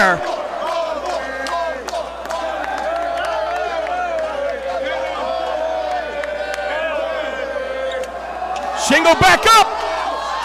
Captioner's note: applause